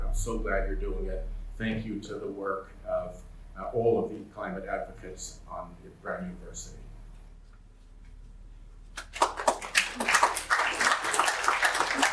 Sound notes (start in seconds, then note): 8.9 applause